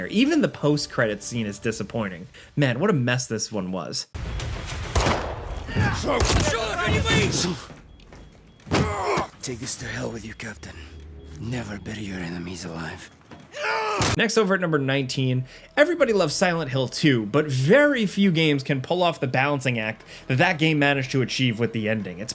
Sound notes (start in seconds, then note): 4.2 gun blasting; 4.2 guns blasting; 5.6 Soap yells; 6.9 Makarov shouts in foreign language; 8.6 foot thuds; 8.8 Soap grunting; 13.6 gun blasting